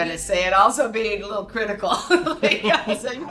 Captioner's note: laughs